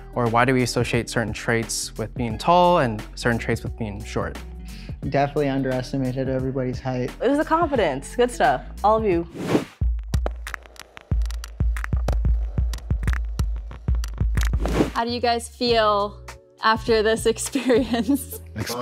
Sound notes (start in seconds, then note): 9.3 air whooshing; 14.5 air whooshing